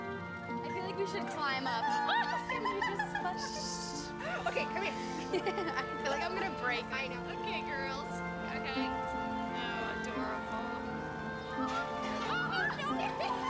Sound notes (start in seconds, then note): 1.6 laughing; 3.4 shushing